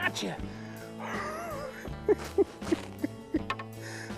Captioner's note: laughing